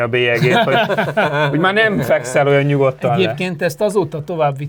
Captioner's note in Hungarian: nevetés